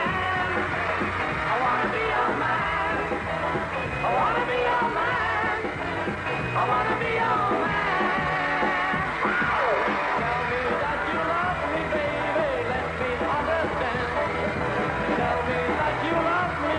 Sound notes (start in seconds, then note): 8.9 crowd cheering